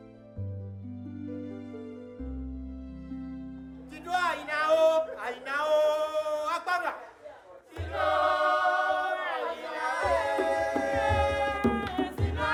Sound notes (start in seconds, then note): 0.0 gentle music; 4.2 performer speaking in a world language; 8.0 singers singing in a world language